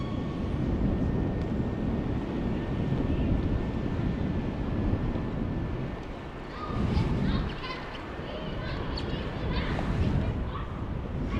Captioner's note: wind Blowing